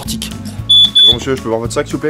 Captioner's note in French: bip bip